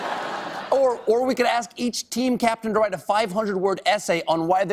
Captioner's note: laughter